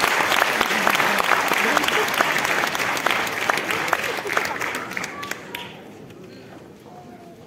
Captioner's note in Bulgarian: аплодисменти